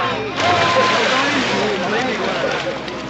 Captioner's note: splash!